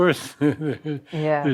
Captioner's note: laughing